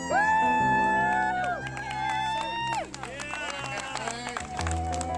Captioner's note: people cheering and clapping